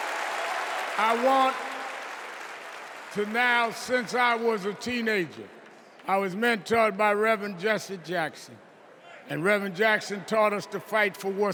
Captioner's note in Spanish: VíTORES